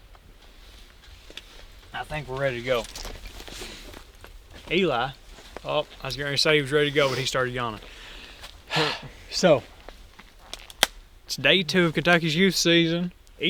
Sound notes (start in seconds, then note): 8.9 chuckles